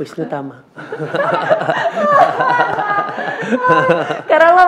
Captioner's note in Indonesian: tertawa